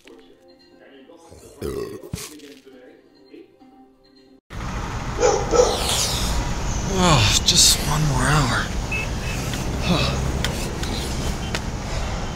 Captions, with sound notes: (burps) (dog barks) Just one more hour. (traffic honking)